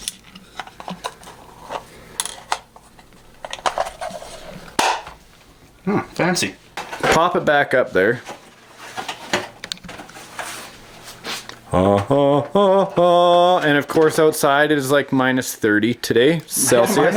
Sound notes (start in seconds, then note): 0.1 snaps; 6.0 voiceover; 11.8 sings